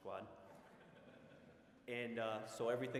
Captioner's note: audience laughing